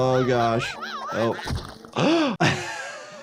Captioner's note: anteater yelling; doctor gasping